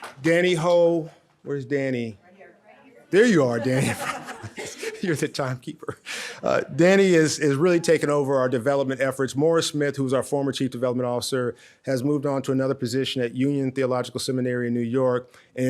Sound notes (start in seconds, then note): 3.2 audience laughs